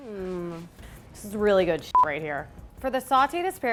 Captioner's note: beep